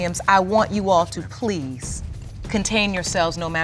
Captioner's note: none